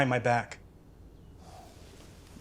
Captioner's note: sighs